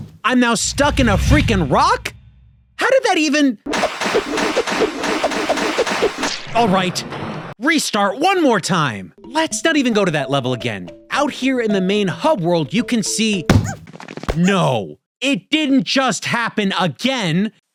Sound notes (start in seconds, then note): 3.7 whipping and splashing erratically; 13.5 thuds